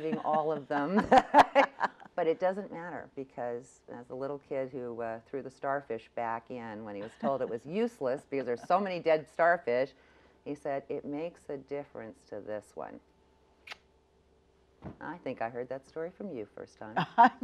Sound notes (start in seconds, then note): 0.0 laughs; 14.5 clicks